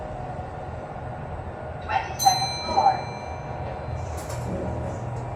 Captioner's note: chime